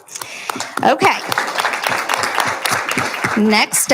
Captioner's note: applauding